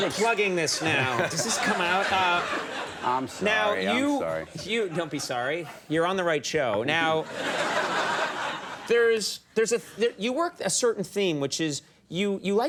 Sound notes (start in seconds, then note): 6.7 audience laughing